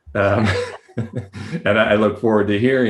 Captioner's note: laughs